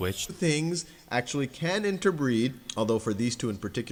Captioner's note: voiceover